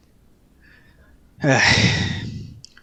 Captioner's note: sigh